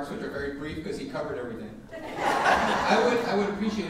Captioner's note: audience laughing